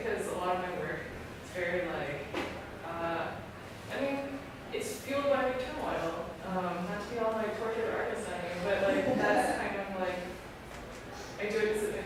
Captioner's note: laughter